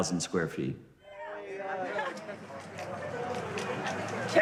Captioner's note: chatter